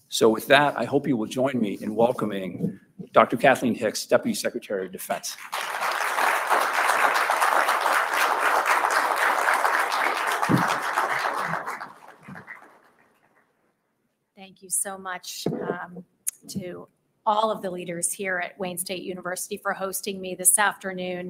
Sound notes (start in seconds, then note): 5.3 applause